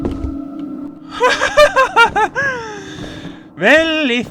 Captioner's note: scared laughter